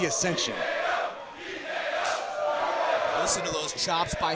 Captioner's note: crowd cheering